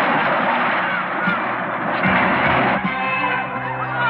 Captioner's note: splashing